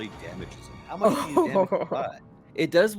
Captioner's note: Cornette laughs